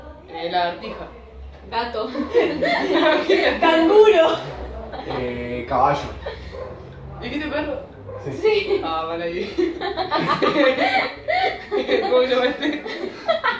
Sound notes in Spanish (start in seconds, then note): 2.1 Risas; 9.4 Risas